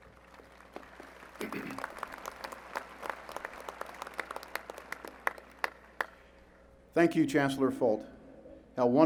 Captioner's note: applause